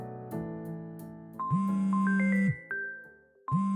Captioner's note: phone ringing